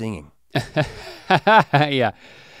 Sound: chuckles

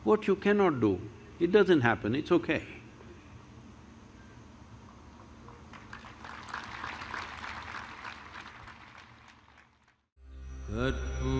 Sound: applause

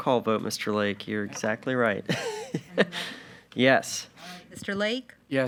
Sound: laughs

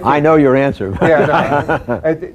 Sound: laughter

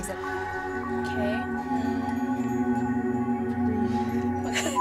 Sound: all humming

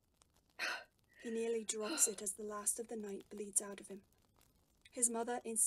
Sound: James gasps

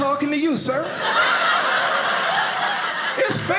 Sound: audience laughing

